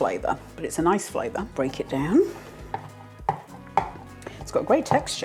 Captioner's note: chop chop chop